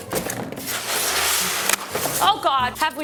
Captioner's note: styrofoam rips; box clatters